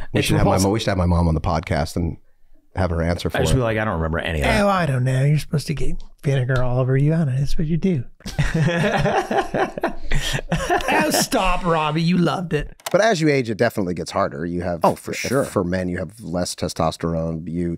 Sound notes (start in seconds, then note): 8.2 Rob laughing